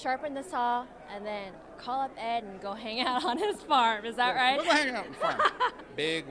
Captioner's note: laughs